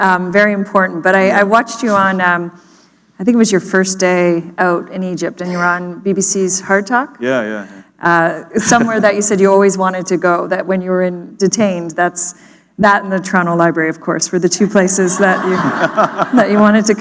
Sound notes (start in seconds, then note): 8.3 chuckle; 15.1 laughter